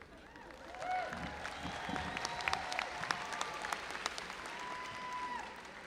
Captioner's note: audience applauding and cheering